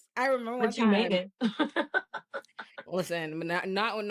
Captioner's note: laughing